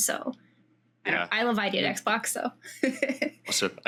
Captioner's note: laughs